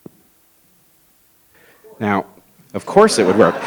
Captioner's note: audience stirs